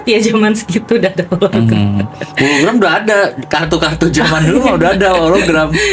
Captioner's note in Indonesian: tertawa